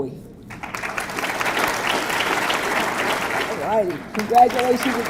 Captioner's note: audience clapping